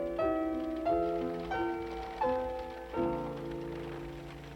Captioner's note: wagon rattling